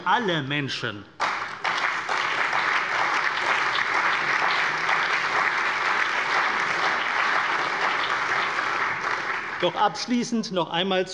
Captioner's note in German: Allgemeiner Beifall